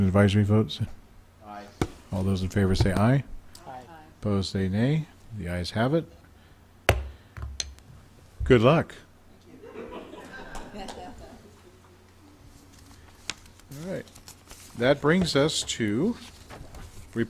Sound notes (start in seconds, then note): 6.7 gavel smacking; 11.2 crowd chuckling